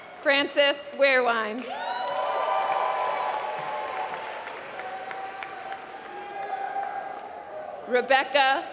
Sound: applause

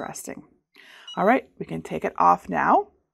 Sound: machine beeping

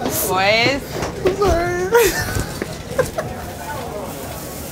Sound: laughing

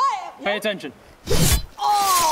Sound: stab

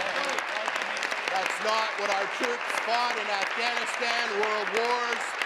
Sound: applause

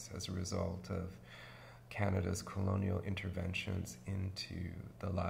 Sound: none

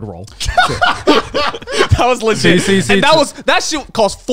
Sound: laughing

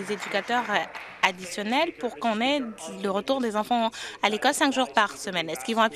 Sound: applause

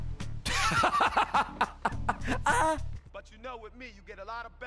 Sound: laughs

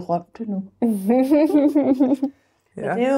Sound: chuckles

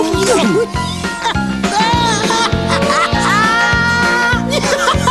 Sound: laughter

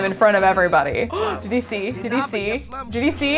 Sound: gasps

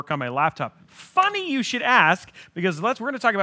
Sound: claps hands

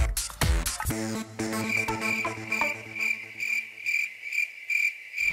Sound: funky music; crickets chirping

